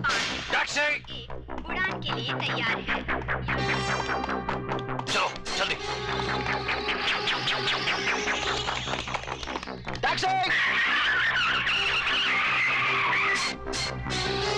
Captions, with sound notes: Taxi ! Let's go fast! Taxi ! (Tires Screeching)